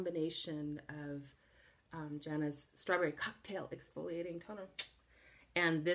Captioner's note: kiss